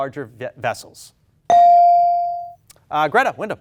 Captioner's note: bell dings